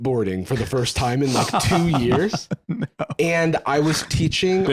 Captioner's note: laughing